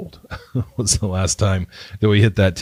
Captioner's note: laughing